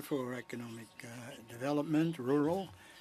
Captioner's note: speaking French